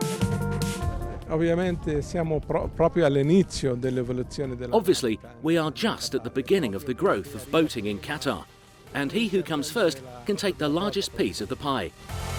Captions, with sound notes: (speaks in foreign language) Obviously, we are just at the beginning of the growth of boating in Qatar, and he who comes first can take the largest piece of the pie.